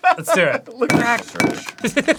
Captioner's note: egg tapping on glass; laughing